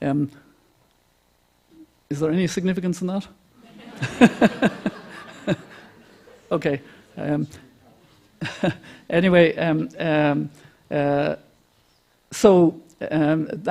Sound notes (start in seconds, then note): 6.5 laughter